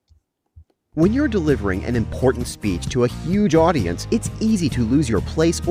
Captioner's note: voiceover